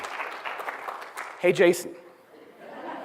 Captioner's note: laughter